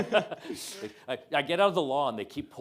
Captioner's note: and student chuckling